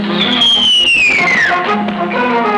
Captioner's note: dramatic music; whistles; dramatic music